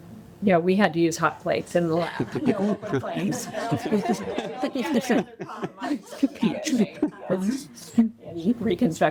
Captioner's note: audience laughter